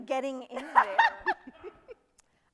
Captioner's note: people laugh